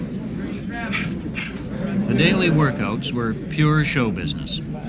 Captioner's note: gasps of exertion